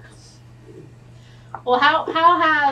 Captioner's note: laughs